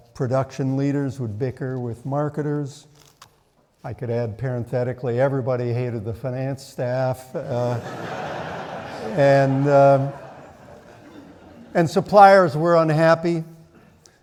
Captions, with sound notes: Production leaders would bicker with marketers." I could add parenthetically, everybody hated the finance staff. (audience laughing) "And suppliers were unhappy.